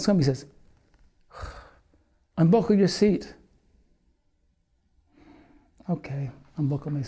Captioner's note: sighs